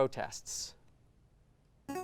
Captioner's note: ring-in sound